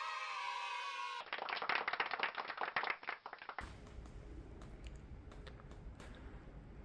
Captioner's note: applause